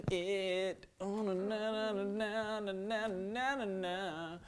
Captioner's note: humming